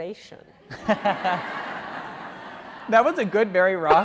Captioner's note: laughing